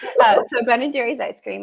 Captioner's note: laughs